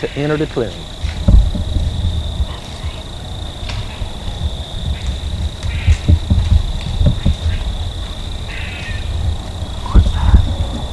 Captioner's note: whispering